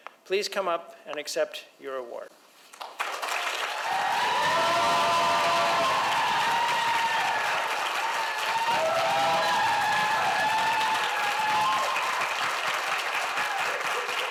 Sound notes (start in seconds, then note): 3.2 audience applauds; 3.2 audience cheers